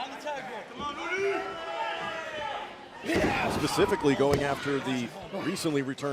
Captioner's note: crowd chatter